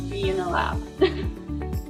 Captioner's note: chuckles